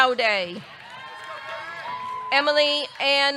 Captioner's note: audience cheering